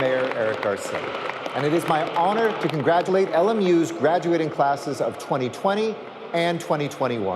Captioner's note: applause